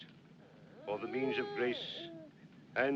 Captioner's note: Agitação da criança